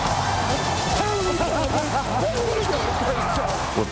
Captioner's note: laughing